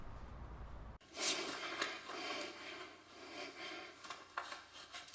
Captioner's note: heavy breathing noises